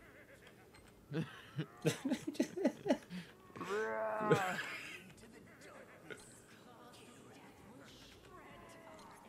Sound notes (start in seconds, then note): 1.1 both Laugh